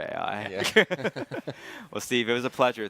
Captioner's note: all laughing